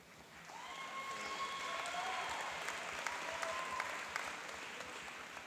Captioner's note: applauding and cheering